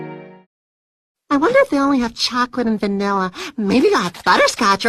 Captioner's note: gasp